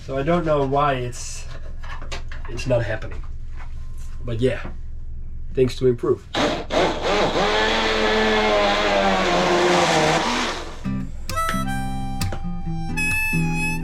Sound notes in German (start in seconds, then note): 6.3 Mixer dreht auf